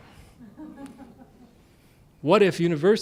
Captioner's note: laughter